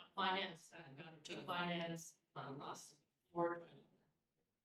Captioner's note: speaking faintly